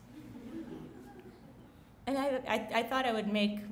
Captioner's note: laughing